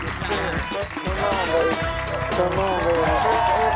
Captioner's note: audience applauding